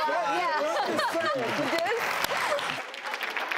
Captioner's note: applause